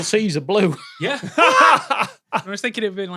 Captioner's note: laughs